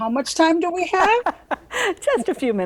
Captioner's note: laughs